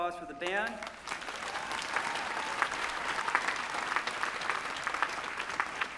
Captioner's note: applause